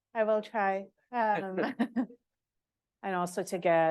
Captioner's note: chuckle